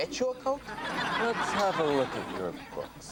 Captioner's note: audience laughs